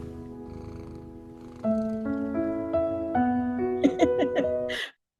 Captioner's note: laughing